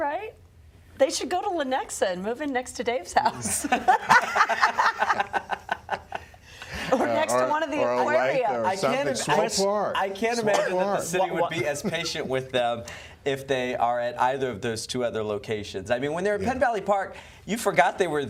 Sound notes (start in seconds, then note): 3.2 laughter